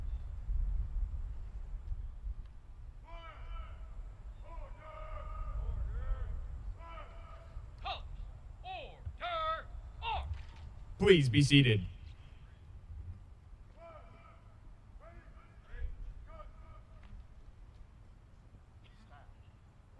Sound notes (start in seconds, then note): 0.3 soldiers shouting commands; 11.0 soldiers shouting commands